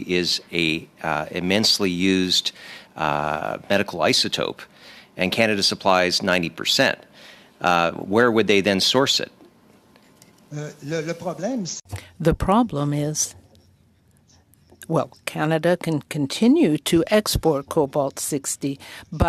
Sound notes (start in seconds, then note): 16.9 speaking french